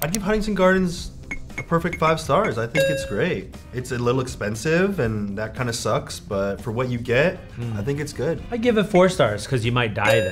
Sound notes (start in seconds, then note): 2.7 tone chimes; 10.0 tone chimes